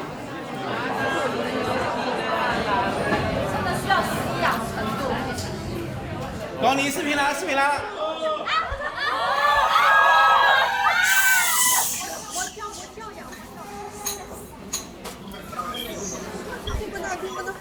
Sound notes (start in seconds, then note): 9.0 screams; 11.1 booing